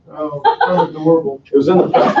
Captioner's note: laughing